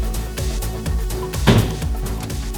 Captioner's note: thuds